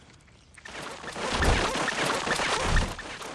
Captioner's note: Gloink squeaking rapidly